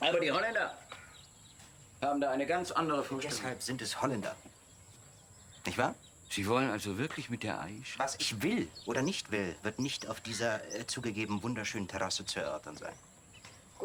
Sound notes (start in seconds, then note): none